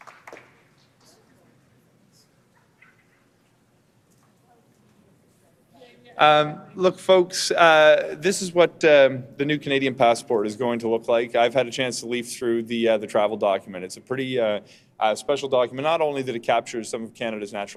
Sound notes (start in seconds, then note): 0.0 applause